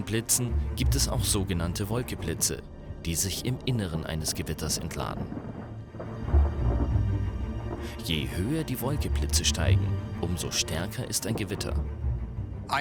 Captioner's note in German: cloud-to-cloud strokes